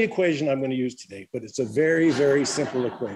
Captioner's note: laughter